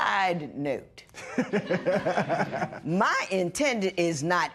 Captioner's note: laughter